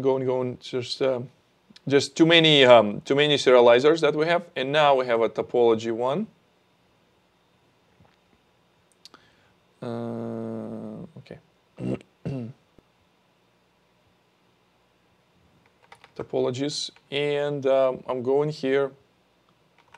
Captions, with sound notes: We're going to go and go and there's just too many sterilizers that we have and now we have a topology one. Okay. (clears throat) Topologies and I'm going here, update.